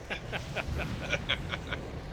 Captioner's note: laughs